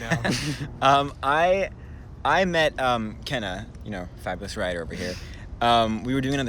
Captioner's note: laughs